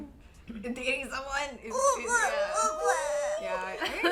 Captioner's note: excited gibberish